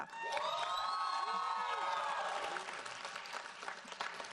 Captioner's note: audience applauds